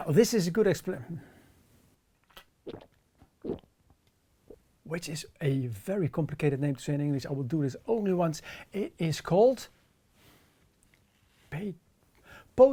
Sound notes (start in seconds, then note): 3.2 loud gulping